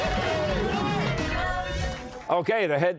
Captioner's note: cheers and applause